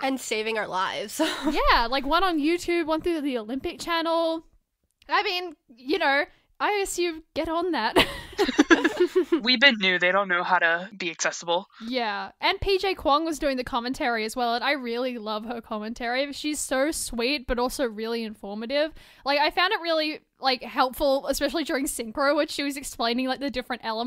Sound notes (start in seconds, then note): 8.1 hosts laugh